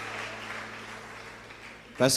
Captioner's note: applause